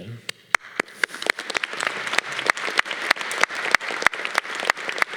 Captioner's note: audience applause